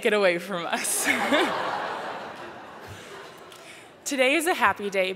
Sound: laughter

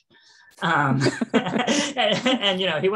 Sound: laughing

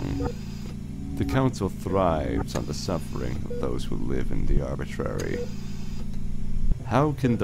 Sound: mechanical ambiance

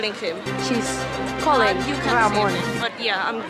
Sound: breaking news sound effects

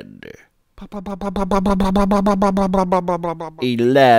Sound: funny motor sound goes

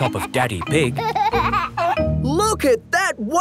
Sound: giggling

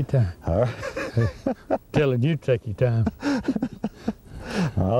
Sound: laughter

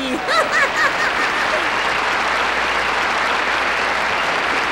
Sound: audience applauding

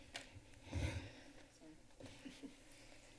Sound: exhales

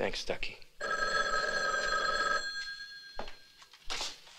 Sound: phone rings

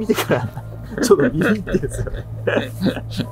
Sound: laughing

